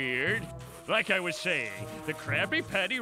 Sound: none

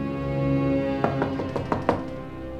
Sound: door knocks

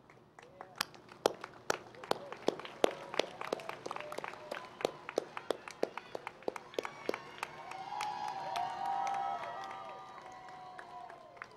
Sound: cheering and Applause

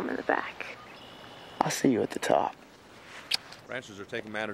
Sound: smooches

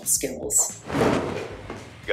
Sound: cloth cover rustles

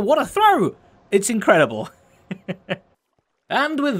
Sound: chuckles

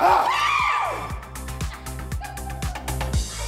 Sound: yelling; women screaming; woman laughing

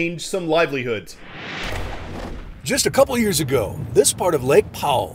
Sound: voice-over

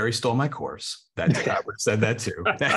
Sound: laughter

